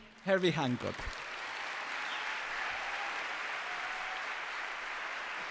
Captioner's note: applause